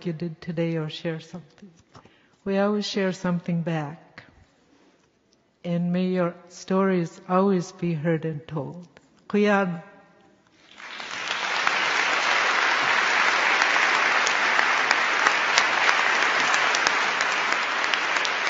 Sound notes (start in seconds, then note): 8.9 speaking yupik; 10.4 applause